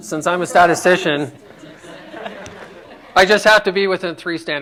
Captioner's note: laughter